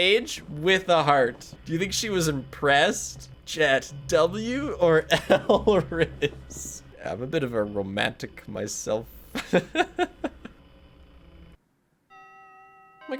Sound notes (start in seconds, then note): 9.2 laughs